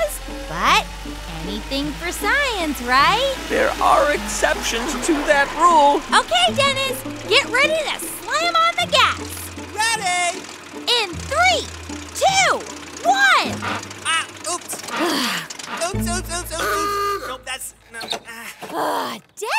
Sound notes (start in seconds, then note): 7.1 soundbite of truck rumbling; 13.4 soundbite gears grinding; 15.0 sigh